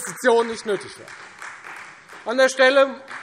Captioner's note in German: Beifall Freie Demokraten